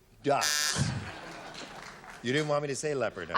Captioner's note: buzzer